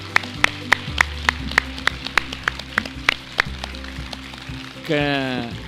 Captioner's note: applause